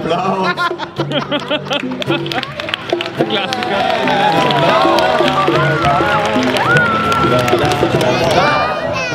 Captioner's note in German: Lachen und Applaus